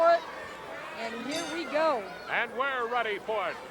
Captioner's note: bell rings